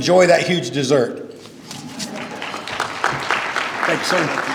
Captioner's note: applause